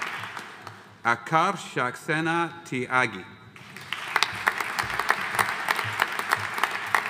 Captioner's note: audience applauding